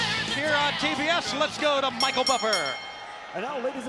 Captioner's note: bell rings